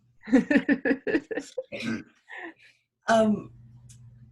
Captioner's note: laughs